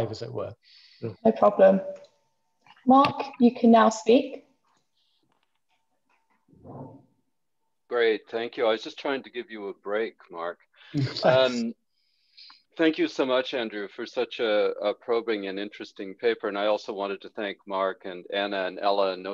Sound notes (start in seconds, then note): 10.9 laughs